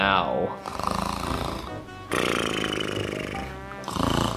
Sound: Luigi snoring

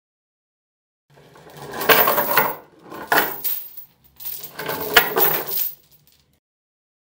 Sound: rattling chain

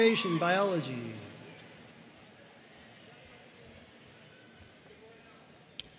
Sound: audience cheering and applauding

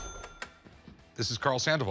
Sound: cash register sound

